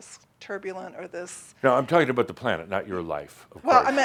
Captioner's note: laughter